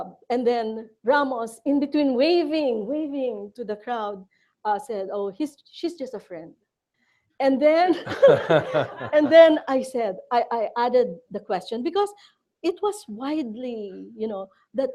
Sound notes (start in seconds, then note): 7.9 laughter